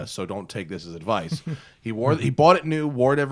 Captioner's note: laughter